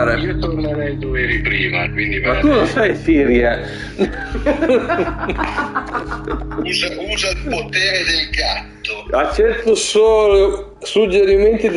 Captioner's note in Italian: Risate